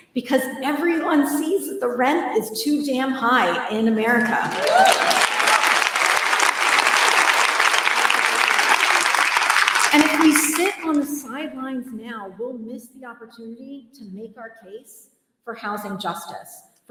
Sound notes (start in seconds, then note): 4.2 applause